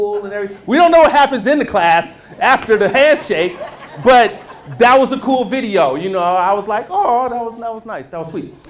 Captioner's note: laughter